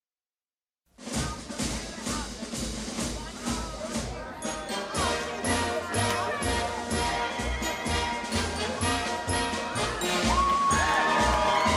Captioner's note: crowd cheering